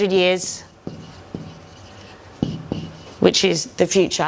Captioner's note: whiteboard squeaks